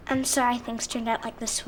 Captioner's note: none